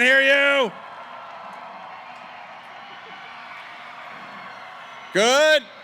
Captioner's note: cheering